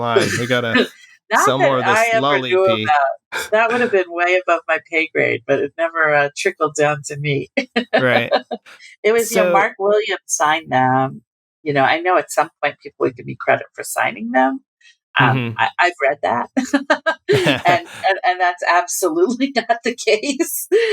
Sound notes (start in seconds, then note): 0.1 laughter; 7.6 laughter